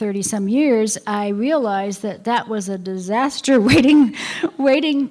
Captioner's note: laughter